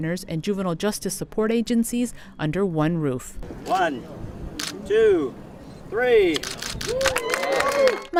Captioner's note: applause